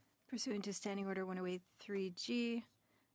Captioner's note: speaking French